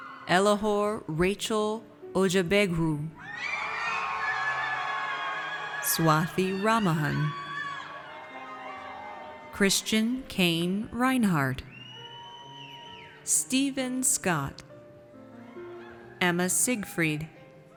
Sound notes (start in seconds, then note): 0.0 audience cheers; 3.2 audience cheers